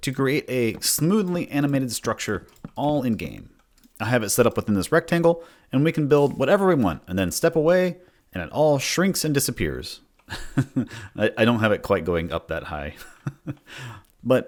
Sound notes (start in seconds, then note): 10.2 chuckles; 13.0 laughs